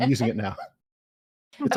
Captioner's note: laughs